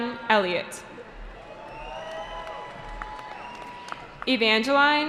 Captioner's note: cheering